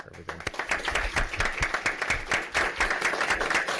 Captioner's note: clapping